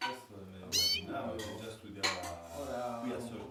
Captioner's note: bird chirping